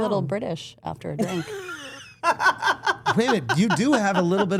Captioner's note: Steph laughing